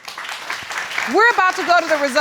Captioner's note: applause